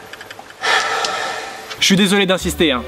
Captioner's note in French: Soupir